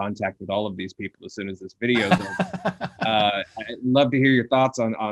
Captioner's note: laughing